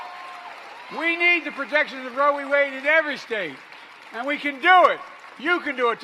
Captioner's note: applause